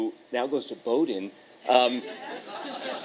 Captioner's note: laughter